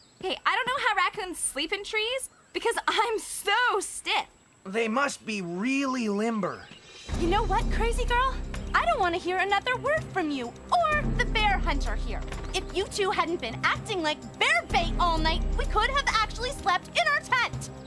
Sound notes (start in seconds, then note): none